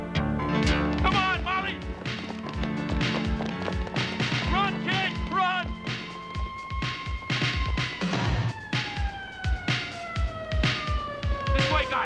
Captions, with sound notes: - Come on, Molly! Run, kid, run! (siren wailing) (tense music continues)